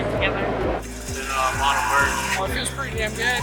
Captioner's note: crowd cheering